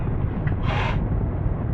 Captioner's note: teddy inhales strongly